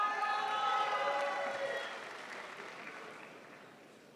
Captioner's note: crowd applauds